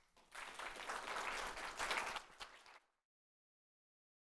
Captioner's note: audience applauding